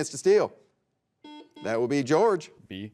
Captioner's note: buzzer beeps